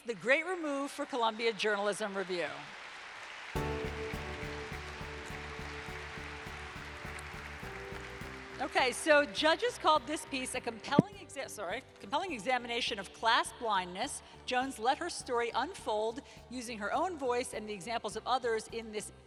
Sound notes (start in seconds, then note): 3.3 applause - Music